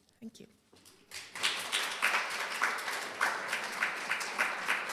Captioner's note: applause